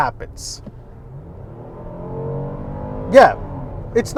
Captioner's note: engine revving